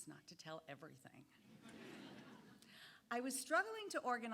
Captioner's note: audience laughing